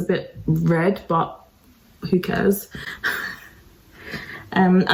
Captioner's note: laughs